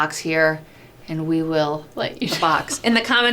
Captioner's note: laughs